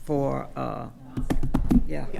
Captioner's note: drumming on table